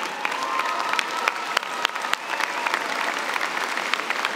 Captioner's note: applause